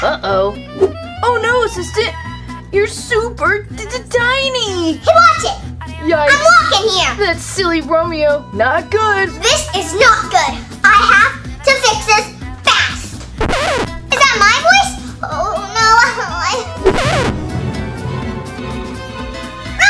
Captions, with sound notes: - Uh oh. Oh no, assistant. You're super t-t-t tiny. - Watch it, I'm walking here! - That silly Romeo, not good! - This is not good. I have to fix this fast. (record scratches) Is that my voice? Oh no. (suspenseful music)